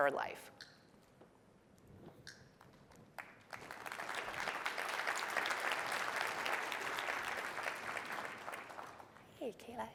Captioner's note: applause